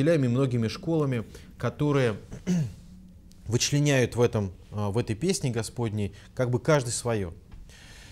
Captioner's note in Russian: откашлялся